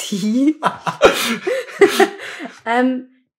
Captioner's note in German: beide lachen